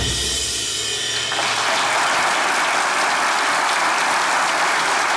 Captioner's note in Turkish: Alkış sesleri